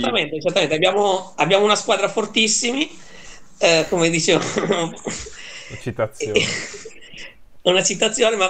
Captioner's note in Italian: risate